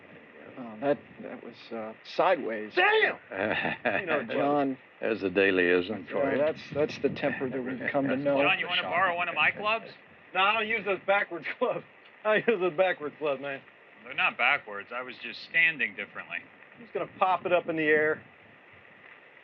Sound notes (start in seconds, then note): 3.2 chuckles